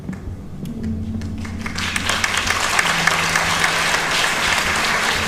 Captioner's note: applause